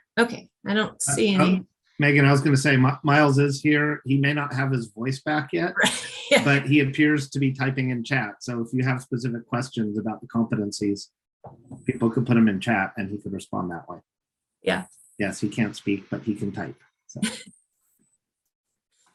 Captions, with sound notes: Okay. I don't see any. Megan, I was gonna say, Miles is here. He may not have his voice back yet. Right. (laughs) But he appears to be typing in chat. So, if you have specific questions about the competencies, people could put 'em in chat and he could respond that way. Yeah. Yes. He can't speak, but he can type.